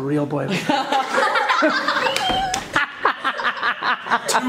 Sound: laughs

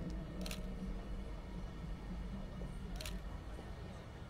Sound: shutter Clicking

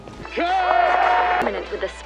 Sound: cheering

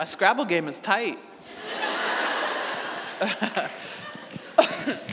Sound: audience laughing

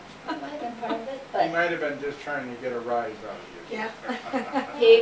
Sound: laughter

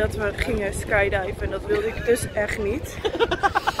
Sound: laughing like the bully he is

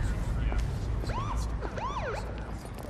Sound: wailing of siren

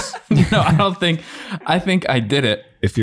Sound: laughs

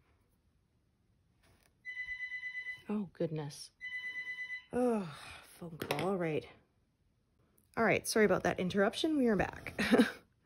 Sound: phone rings

